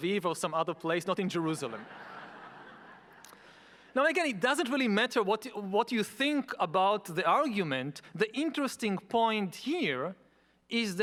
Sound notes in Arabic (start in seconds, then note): 1.5 يضحك الجمهور